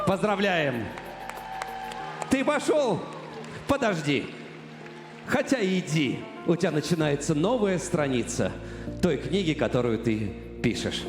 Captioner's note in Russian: аплодисменты